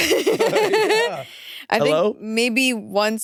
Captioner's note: laugh